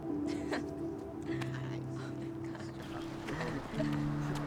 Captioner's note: kids laughing